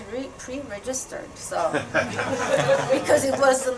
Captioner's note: laughter